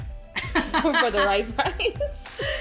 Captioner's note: laughing